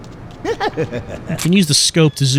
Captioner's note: laughter